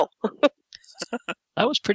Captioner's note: laughter